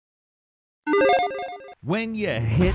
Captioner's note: logo chiming